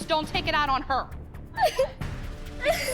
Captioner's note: crying